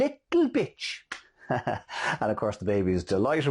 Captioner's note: laughing